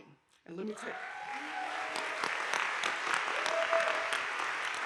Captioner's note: audience applauding